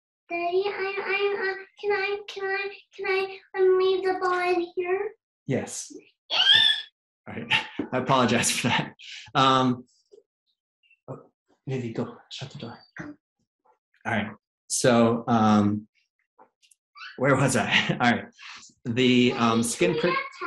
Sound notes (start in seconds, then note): 6.3 child cheering